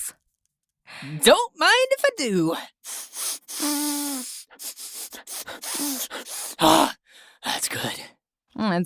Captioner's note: sniff sniff